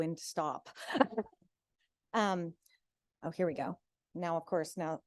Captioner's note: laughs